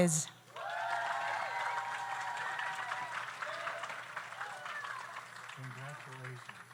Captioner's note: audience cheers; audience applauds